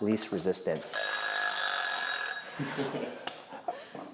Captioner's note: timer rings